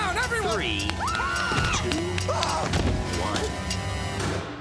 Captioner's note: screaming